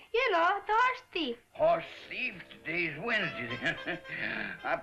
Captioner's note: chuckles